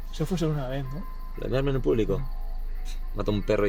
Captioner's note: none